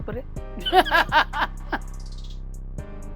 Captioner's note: laughs